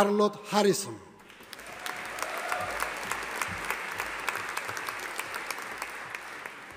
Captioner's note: audience applauding